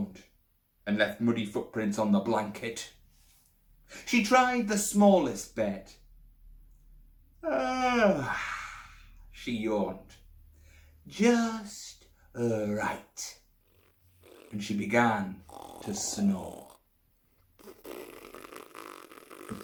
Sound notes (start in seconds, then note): 16.6 snoring